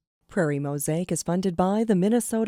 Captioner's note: voiceover